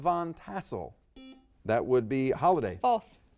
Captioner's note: buzzer beeps